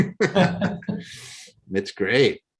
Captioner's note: laugh